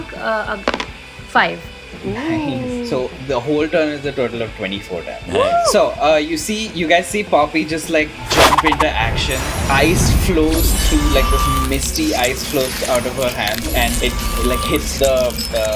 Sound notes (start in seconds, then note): none